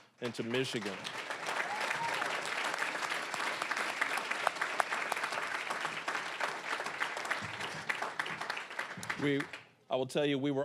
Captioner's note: applause